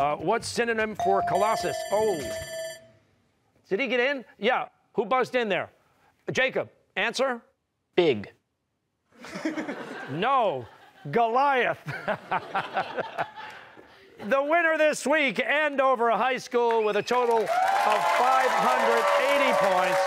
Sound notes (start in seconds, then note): 1.0 bell ringing; 1.0 bell rings; 9.1 laughter; 11.8 laughter; 19.9 cheers and applause